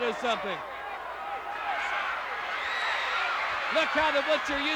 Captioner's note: crowd yelling